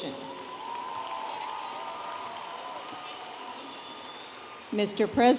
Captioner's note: audience applauding and cheering